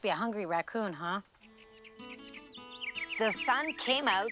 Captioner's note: birds chirping